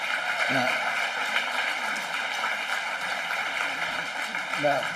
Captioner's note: applause